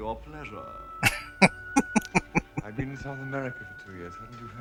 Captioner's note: laughing